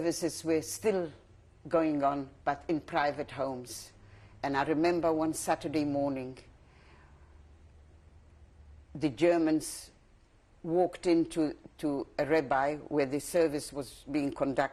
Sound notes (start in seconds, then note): 5.8 pauses for 3 seconds